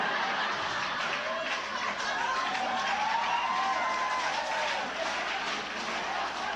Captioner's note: laughter and cheering